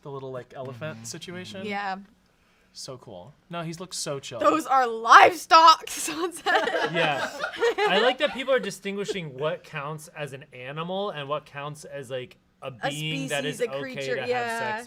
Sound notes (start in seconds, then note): 6.2 laughing; 6.4 laugh